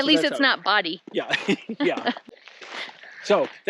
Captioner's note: laughs